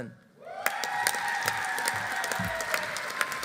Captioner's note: audience cheering; audience applauding